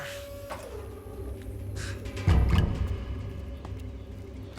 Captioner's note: ramp whirring